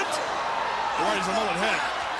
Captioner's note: crowd cheering